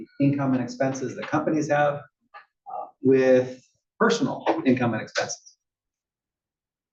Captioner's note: cough